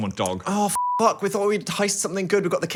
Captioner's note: beep